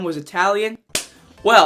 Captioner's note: loud clap